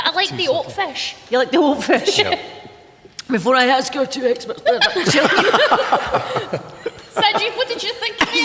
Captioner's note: coughs!